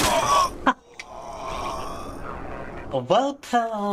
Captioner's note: screaming